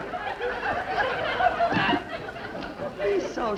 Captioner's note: audience laughs